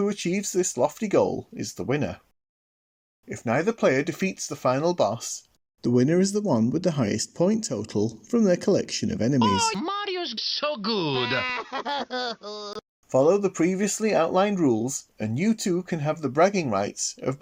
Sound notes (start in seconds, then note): 11.1 crying